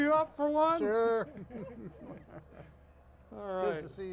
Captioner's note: hosts chuckling